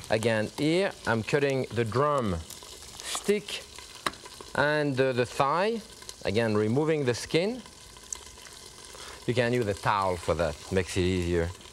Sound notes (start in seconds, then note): none